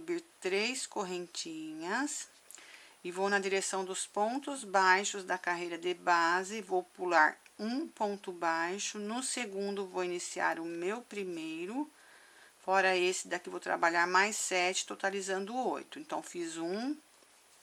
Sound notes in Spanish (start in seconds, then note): 8.6 en español